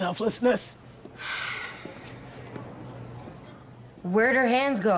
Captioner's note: sighs